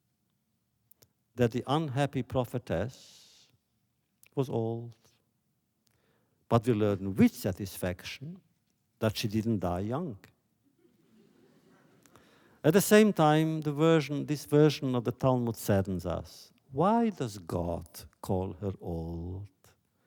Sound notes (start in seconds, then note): 11.4 laughter